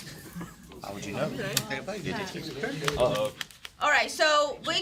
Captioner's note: students murmur